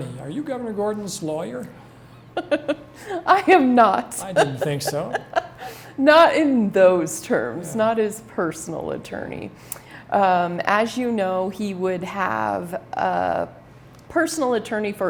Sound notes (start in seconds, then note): 2.2 laughs